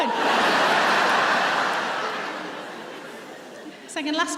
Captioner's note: audience laughs